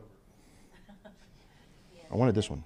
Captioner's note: chuckles